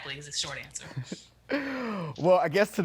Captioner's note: laughs